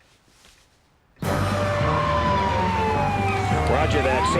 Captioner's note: siren blaring